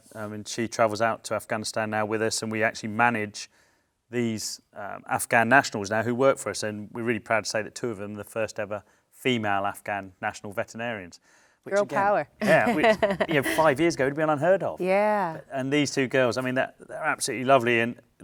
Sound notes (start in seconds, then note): 12.4 chuckles